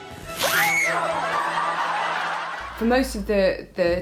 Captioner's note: screams and laughs